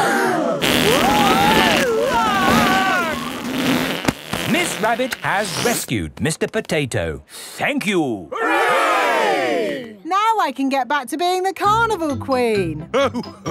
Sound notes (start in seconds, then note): 0.1 crowd gasps; 1.8 screaming